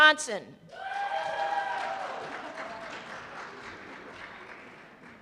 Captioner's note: cheers and applause